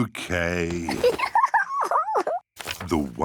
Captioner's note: giggles